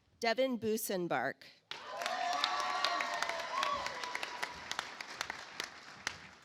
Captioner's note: audience applauds